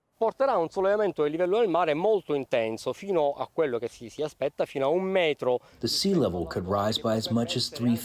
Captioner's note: through translator